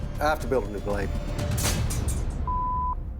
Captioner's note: blade clatters